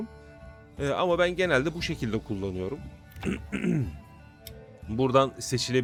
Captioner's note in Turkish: boğazını temizler; öksürme